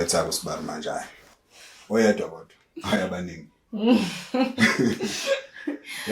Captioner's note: laughing